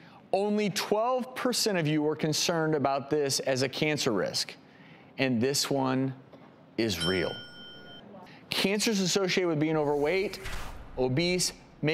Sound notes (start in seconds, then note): 6.9 ringing bell